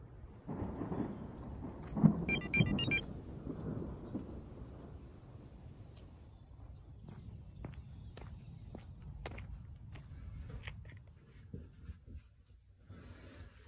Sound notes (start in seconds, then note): 0.0 thunder rumbles; 2.3 notification sound